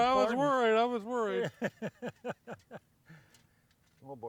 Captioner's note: laughs